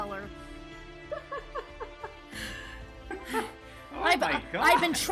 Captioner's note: laughing